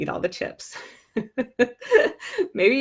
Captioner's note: laughing